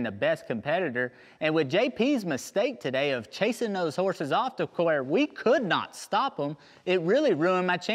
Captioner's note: none